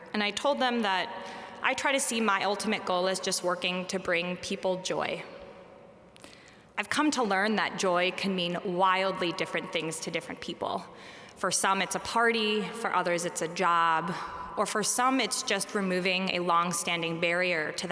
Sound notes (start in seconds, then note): none